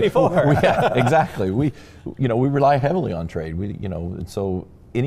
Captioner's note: laughing